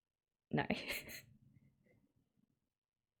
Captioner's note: laughs